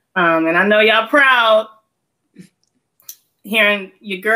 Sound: none

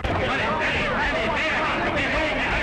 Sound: punching

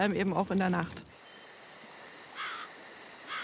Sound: crickets chirping

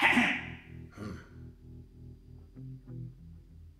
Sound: grunt

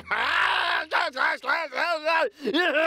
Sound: screaming

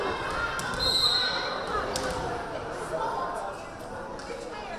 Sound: whistle blaring

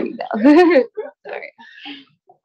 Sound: chuckles

